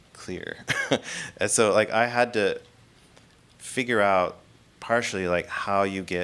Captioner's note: laughing